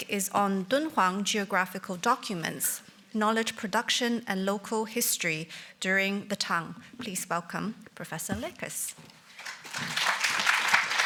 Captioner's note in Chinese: 掌聲